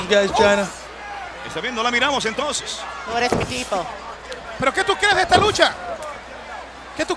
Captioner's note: commentators speaking in Spanish